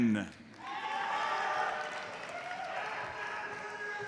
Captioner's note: audience cheers and applauds